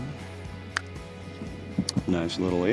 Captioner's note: fishing line pops